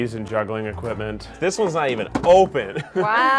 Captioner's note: laughs